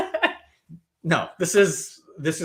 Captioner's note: laughing